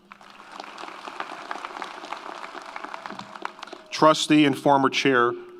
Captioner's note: audience applauds